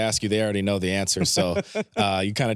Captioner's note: chuckles